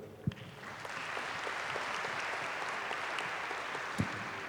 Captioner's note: applause